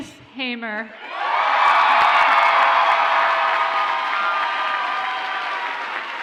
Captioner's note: audience cheers and applauds